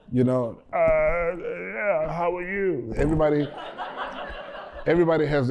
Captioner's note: laughter